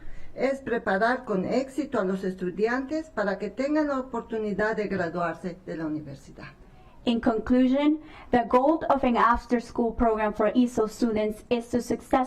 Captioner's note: speaking spanish